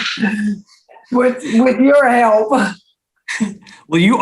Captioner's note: chuckles